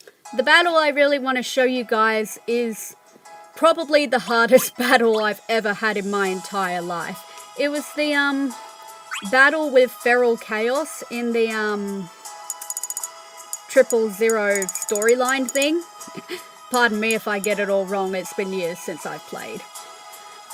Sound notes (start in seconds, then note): 16.1 laughter